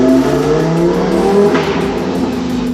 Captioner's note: pop and bang